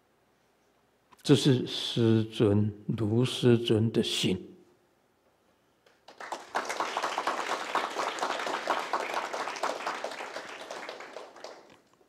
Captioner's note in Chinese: 眾鼓掌